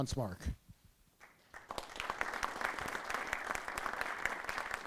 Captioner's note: applause